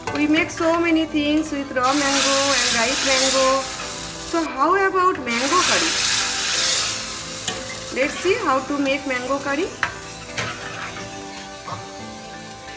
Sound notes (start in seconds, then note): 0.0 gentle music; 6.2 food sizzles; 10.1 gentle music